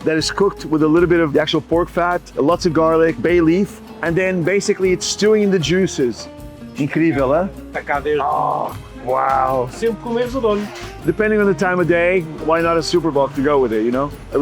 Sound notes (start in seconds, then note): 6.9 speak Portuguese; 10.0 speaks Portuguese